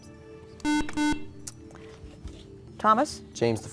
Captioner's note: buzzer